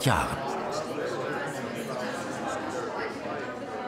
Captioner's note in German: Stimmengewirr